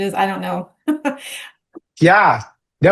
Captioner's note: laughing